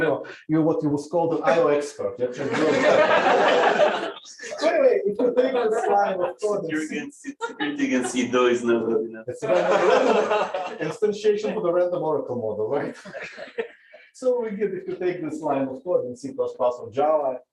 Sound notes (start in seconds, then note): 2.4 laughter; 9.4 laughter; 12.8 laughter